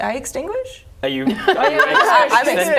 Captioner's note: laughing